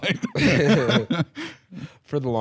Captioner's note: both laughing